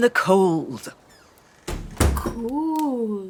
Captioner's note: sound of door closing